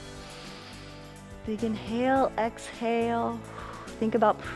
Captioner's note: inhales; exhales